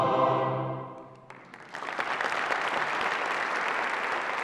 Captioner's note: audience applauding